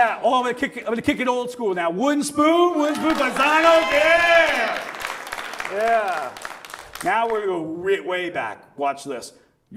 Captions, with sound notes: Oh, I'm gonna kick, I'm gonna kick it old school now. Wooden spoon? Wooden spoon? Pisanos? Yeah. Yeah. (audience cheers and applauds) Now we're, go way back. Watch this.